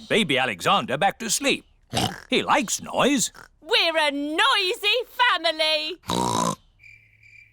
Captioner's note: oinks